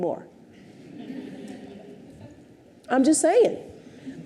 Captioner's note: audience chuckles